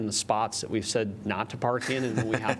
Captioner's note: laughter